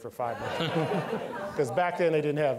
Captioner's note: all laughing